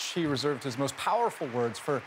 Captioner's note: applause